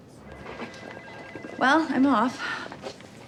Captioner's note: phone rings